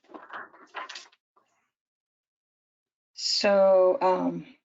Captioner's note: paper rustles